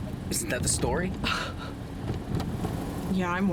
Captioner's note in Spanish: Debra se burla